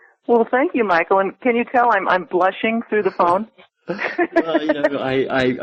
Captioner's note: laughs